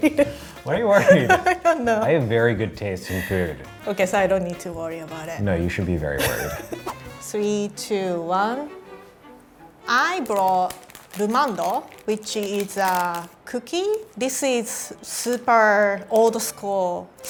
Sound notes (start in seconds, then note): 0.2 laughs; 6.2 laughing; 8.8 classical music; 10.4 speaking in foreign language